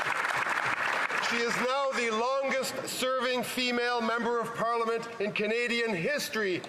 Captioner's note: applause